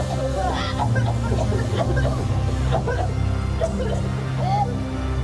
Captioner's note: all coughing; dramatic music